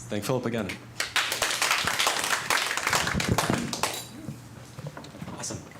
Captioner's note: applause